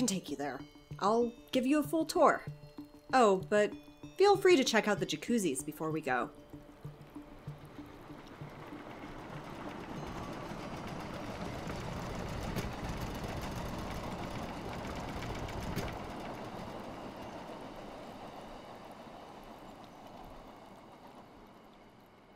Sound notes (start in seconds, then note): 6.5 ambience and music fade out; 6.5 train passes